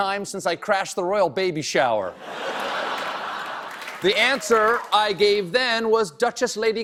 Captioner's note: laughter